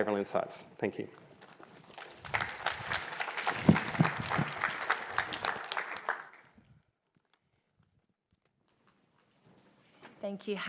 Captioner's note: applause